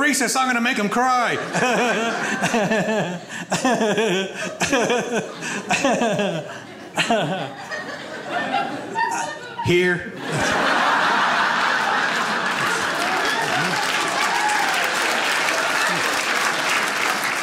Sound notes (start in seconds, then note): 2.0 laughs; 10.3 audience laughs; 14.4 audience applauds